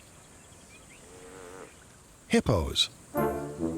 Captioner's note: lowing